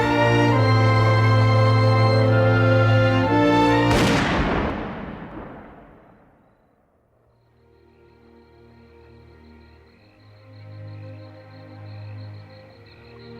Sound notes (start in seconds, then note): 3.9 gunshot; 7.1 crickets chirping